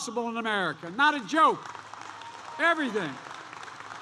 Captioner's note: applause